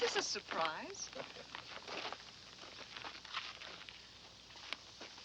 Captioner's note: Mike chuckles